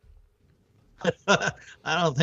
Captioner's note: chuckling